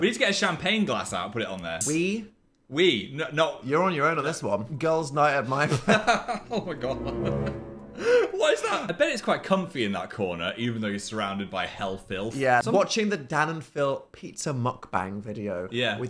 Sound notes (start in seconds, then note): 5.6 Phil laughs; 6.2 laughs